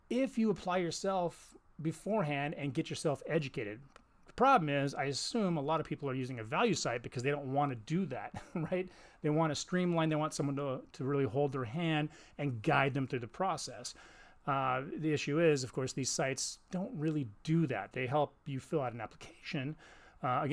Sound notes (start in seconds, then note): 8.3 chuckles